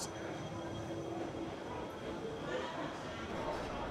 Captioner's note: people chattering